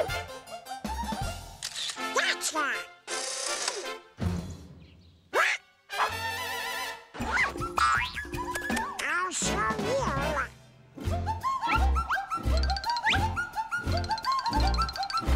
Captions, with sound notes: Gotcha! (EXCLAIMS) (KISSING) I'll show you!